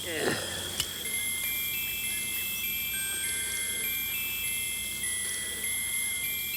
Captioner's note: pocket watch chimes melodically